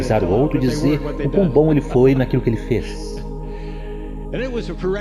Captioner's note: laughs